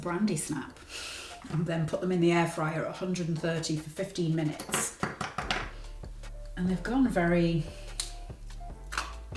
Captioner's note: taps